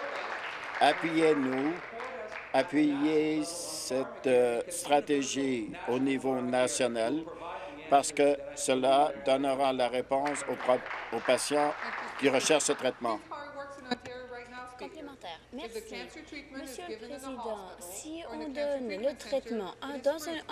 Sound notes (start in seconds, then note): 1.5 applause